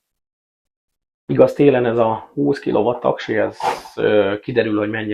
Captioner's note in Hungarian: horkantás